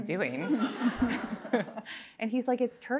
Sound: laughter

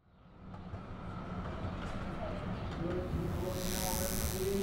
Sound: none

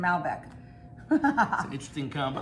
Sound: Rachel laughing

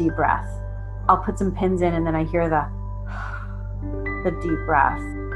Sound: exhale

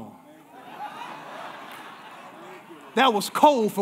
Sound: congregation laughing

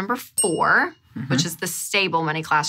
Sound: bell dings

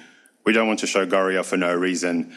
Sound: speaks foreign language

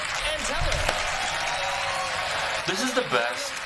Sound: applause

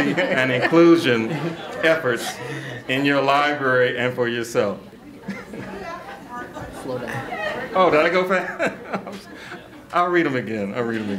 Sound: laughter

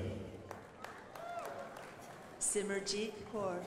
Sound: crowd applauding

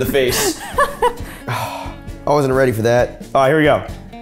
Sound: sighs

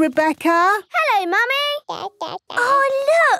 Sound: babbling

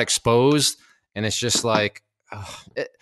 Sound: sighs

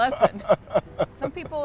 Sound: Anthony laughs

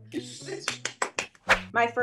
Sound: laughing; claps

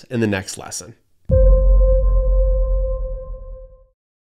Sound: bell pulsing

